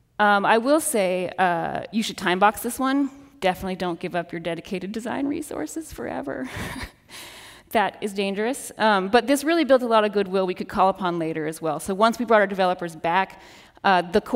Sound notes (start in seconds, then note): 7.0 chuckles